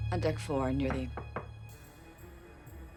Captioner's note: knock at door